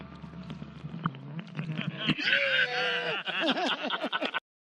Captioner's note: group laughing; screaming